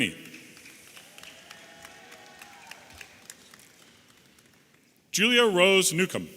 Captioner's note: audience applauding and cheering